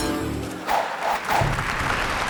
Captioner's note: bicycle clattering; logo whooshing; audience applauding